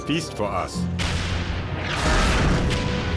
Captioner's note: tank turret fires; tank explodes